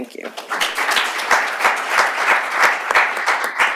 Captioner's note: applause